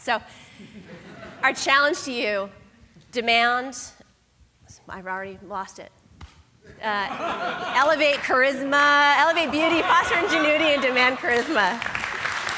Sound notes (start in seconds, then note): 7.0 laughter; 11.0 applause